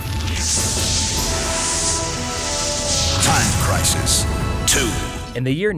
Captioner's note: game audio